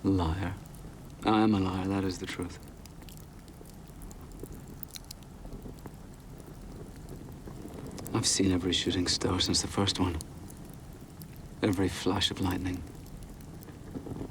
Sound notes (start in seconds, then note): 3.4 fire crackling